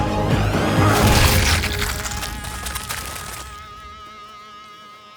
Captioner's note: goo splatters